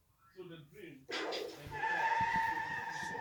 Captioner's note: everyone goes, cars squealing